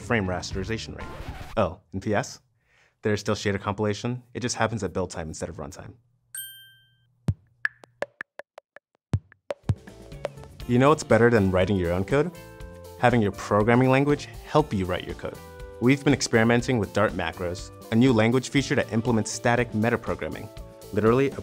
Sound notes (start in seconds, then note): 0.5 record scratch; 7.6 popping